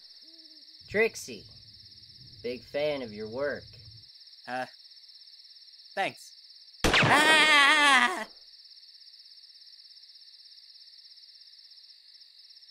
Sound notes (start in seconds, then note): 6.8 gunshot